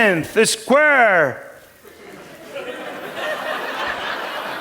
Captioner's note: laughter